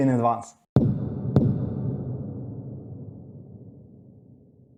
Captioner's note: low thudding